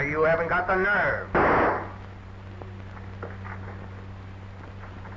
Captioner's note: gun firing